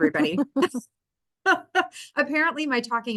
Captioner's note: laughs